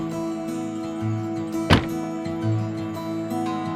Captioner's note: door banging